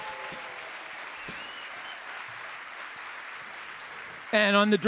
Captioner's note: audience applauding; audience cheering